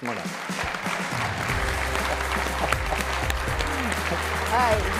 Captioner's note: applause